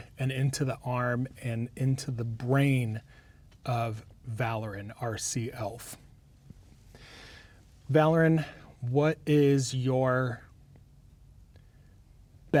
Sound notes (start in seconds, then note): none